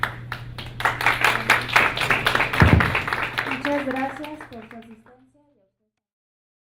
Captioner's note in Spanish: Aplausos